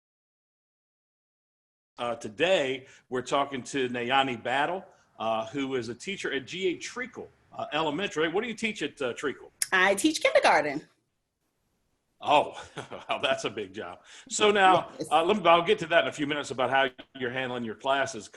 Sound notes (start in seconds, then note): 12.3 laughs